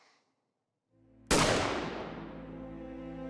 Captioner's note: gun shot